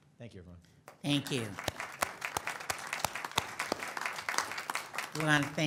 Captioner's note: audience applauds